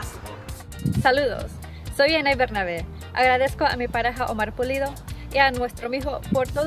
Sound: speaks in foreign language

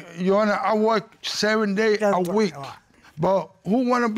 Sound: mumbles

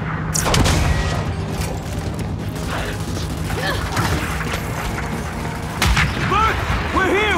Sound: gunfire

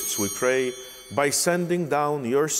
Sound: bell ringing

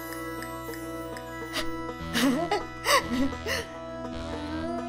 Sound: laughs

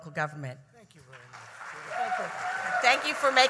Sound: applause

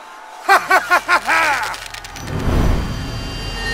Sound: laughing

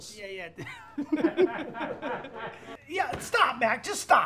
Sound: laughter; laughs

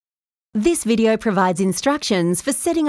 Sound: voiceover

